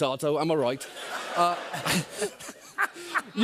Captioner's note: laughter